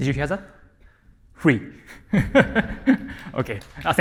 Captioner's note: chuckles; applause